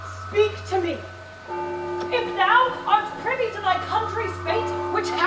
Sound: bell tolls

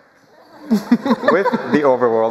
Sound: laughter

